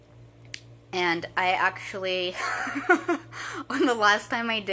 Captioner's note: laughing